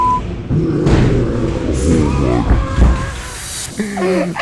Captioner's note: creature groaning; laughing